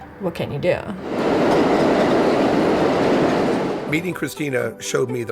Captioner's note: subway cars roars